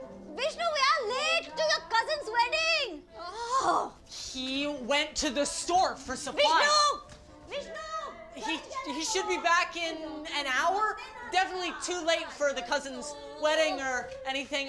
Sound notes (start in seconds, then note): 7.4 speaking foreign language